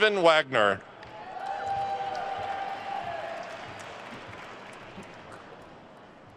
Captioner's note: attendees cheering and applauding